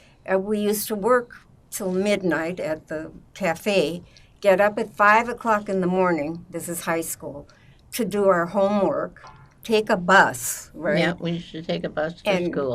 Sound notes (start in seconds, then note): none